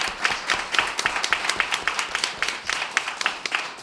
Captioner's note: applause